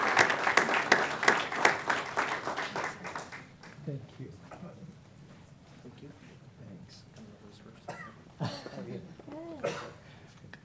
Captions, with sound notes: GROVE K9 CALIFORNIA LAGGER TO THE ELK GROVE POLICE K9 THE ELK GROVE POLICE K9 ASSOCIATION. ASSOCIATION. [ APPLAUSE ]